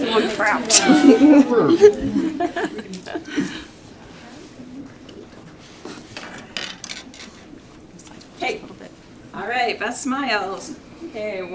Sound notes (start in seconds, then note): 2.9 laughter